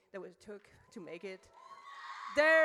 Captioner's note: audience cheers